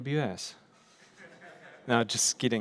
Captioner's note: laughter